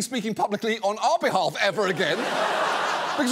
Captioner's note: laughter